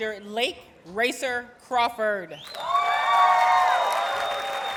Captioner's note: audience cheers and applauds